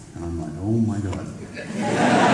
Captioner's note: laughter